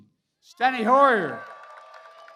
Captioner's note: applause